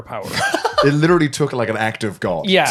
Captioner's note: laughing